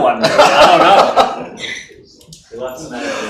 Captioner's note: laughs